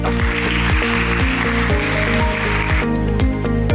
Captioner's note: applause